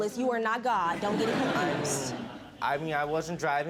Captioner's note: audience laughing